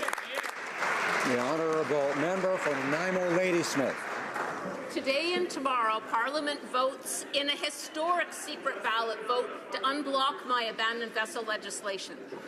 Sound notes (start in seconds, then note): 4.7 some Applause